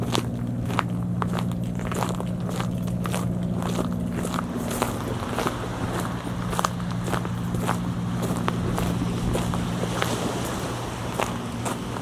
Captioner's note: footsteps on shell